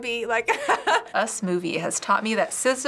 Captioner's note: laughs